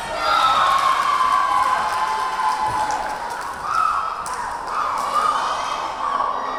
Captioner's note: cheering; clapping